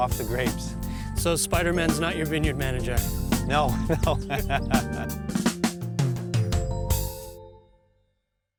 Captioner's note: laugh